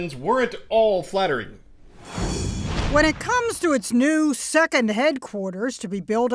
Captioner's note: voice-over